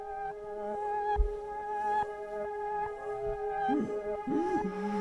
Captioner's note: Leona wheezes